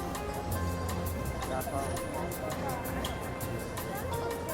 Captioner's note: chattering